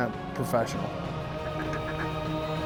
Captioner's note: duck calls